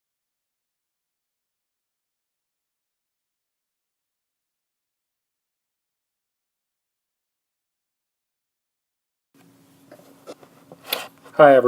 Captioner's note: no sound